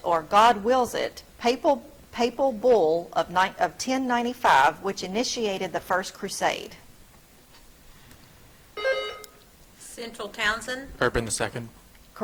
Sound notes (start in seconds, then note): 8.8 buzzer trills